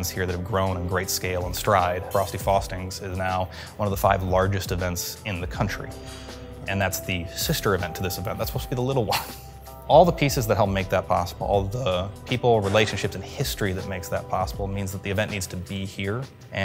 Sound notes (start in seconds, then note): 9.1 laughs